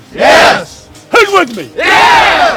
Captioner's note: cheers